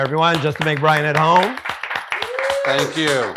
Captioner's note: group claps